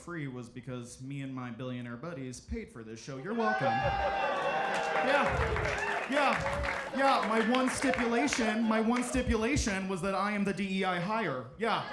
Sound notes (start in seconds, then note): 3.3 audience cheering